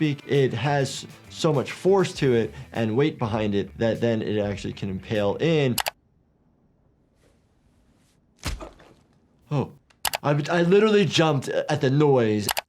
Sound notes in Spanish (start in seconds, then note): 5.8 clics del ratón